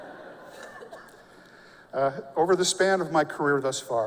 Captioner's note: laughter